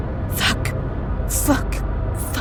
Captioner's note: whispered